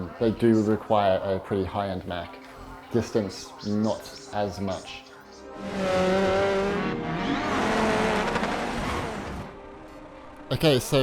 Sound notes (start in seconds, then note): 5.5 car engine roars